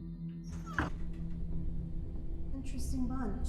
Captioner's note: door thuds shut